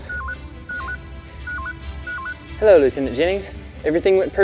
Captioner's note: computer beeping